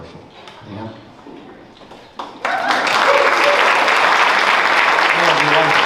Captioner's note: clapping